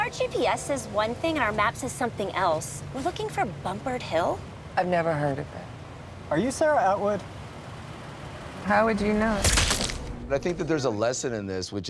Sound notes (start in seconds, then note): 9.4 shot fires